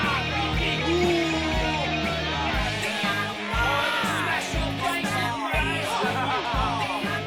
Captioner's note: yelling and jeering